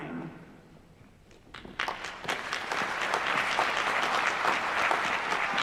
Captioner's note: applause